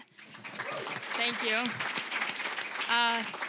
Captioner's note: applause